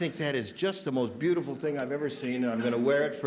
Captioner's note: laughter